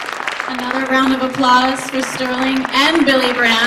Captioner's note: applause